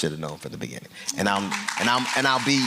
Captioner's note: applause